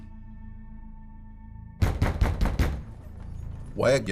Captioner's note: pounding on a door